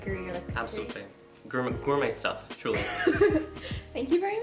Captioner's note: both laugh